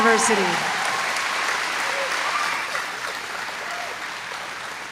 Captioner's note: applause